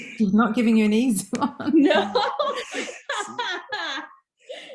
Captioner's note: laughing